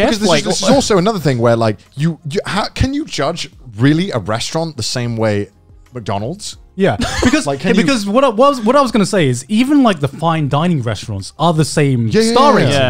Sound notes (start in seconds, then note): 7.0 laughing